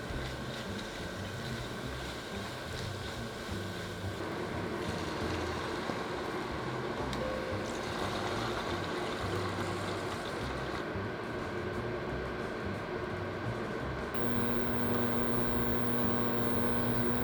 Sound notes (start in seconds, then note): 7.4 liquid pouring